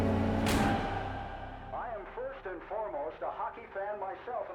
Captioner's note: radio